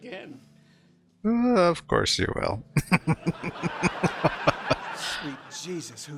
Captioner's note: laughing